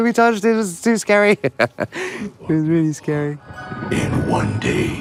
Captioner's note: laughs